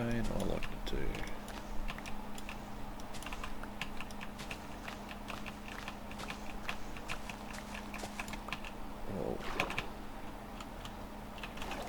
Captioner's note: typing